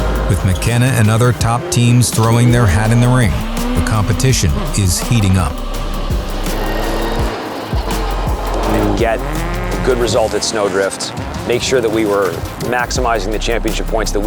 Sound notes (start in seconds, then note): 6.9 engines revving; 6.9 intense music